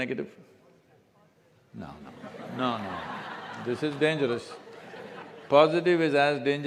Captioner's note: laughter